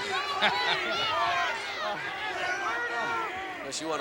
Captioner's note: laughs